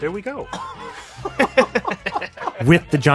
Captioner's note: laughs